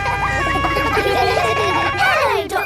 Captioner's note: kids laughing